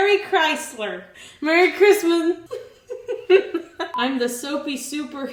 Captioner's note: giggles